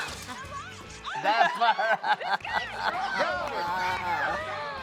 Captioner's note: all laughing